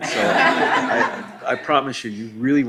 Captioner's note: laughing